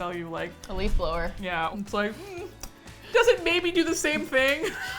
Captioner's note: laughs